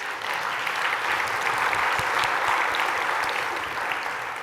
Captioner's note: applause